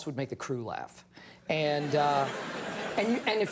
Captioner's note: audience laughs